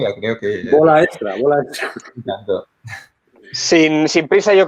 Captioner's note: laughs